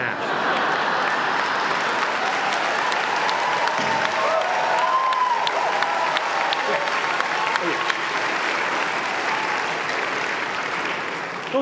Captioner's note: applause